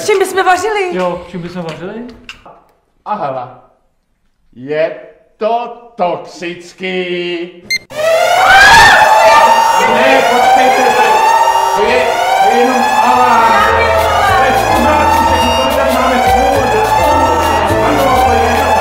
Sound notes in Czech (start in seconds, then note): 8.0 spustí se požární ALARM; 16.6 houká požární ALARM